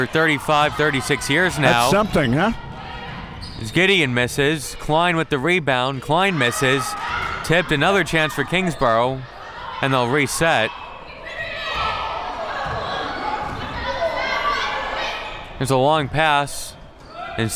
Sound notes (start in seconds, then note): 11.5 crowd murmuring